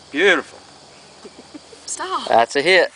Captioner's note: laughs